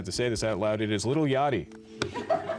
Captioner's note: laughing